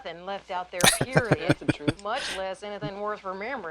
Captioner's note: laughing